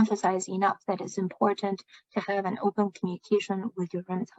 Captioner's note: speaking chinese